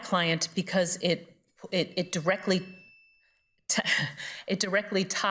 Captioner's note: timer rings